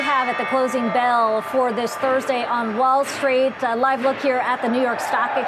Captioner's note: bell ringing